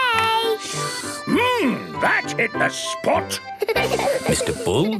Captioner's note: slurping; giggling